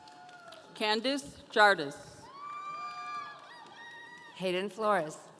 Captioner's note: audience cheering